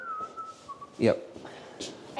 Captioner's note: whistling